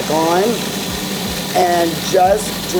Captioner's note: food processor whirring